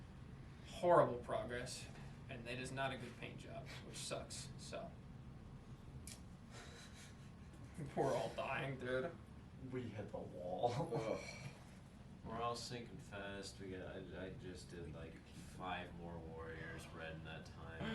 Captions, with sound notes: horrible progress. and it is not a good paint job. which sucks, so *awkward silence* we're all dying, dude. we hit the wall (ugh) we're all sinking fast, we go- I- I- just did like 5 more warriors red in that time.